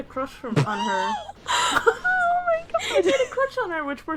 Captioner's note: laughing incredulously; both laughing